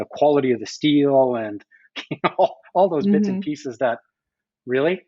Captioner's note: laughs